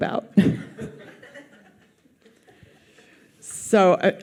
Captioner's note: audience laughs